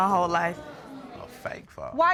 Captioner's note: audience exclaiming